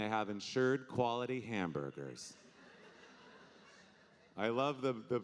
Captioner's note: audience laughing